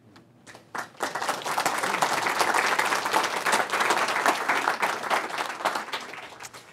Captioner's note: applause